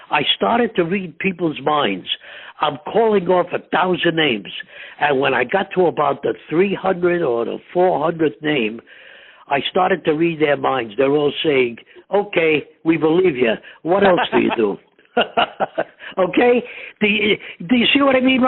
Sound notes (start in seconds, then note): 13.9 laughing